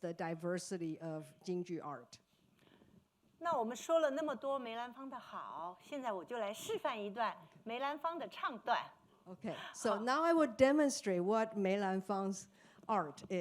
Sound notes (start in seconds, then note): 3.5 speaking Mandarin